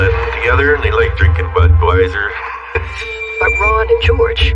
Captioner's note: laughs